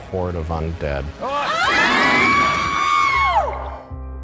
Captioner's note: screaming